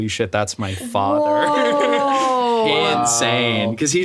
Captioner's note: laughs